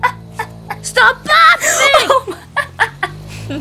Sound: screams; Revy's laugh trails off

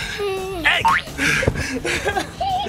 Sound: bounces; giggling

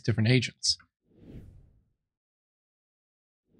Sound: whoosh

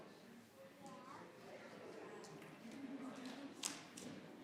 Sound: crowd chattering continues

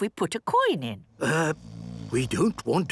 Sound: people snoring

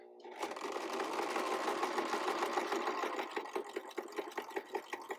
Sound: sewing machine clattering

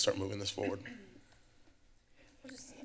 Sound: clears throat

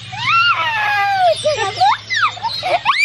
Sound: laughs

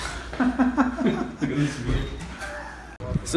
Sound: laughs

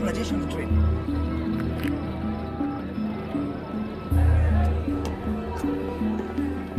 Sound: suspenseful music; chattering

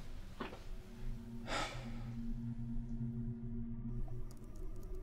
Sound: Adam sighs

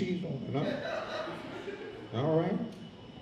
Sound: audience laughs

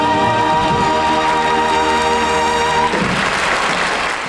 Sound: audience applauding

